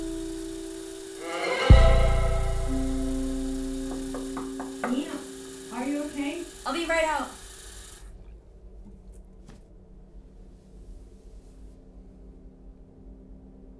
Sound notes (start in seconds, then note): 3.9 knocking